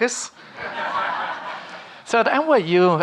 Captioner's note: audience laughing